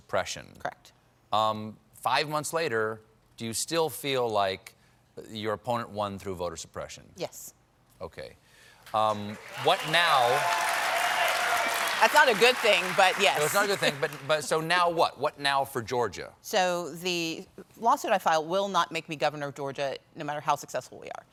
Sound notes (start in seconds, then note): 9.0 cheers and applause